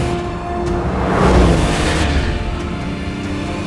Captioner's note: engine revving; dramatic music